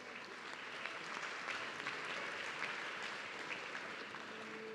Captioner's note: audience clapping